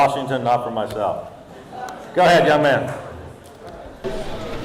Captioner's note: audience laughing